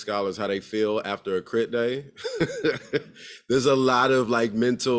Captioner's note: laugh